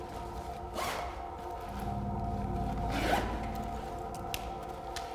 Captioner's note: zipper buzzing